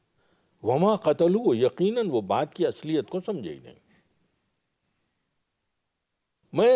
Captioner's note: Arabic